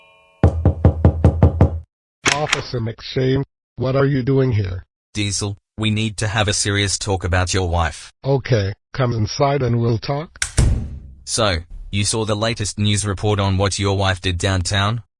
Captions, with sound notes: (knocking on door) (door opens) Officer Shane? What are you doing here? Diesel, we need to have a serious talk about your wife. Okay. Come inside and we'll talk. (door closes) So, you saw the latest news report on what your wife did downtown?